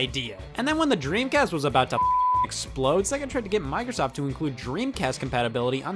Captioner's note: beep